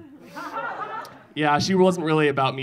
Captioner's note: audience laughing